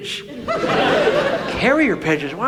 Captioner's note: audience laughs